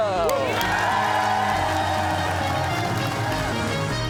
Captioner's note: cheers and applause